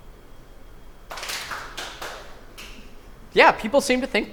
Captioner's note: clapping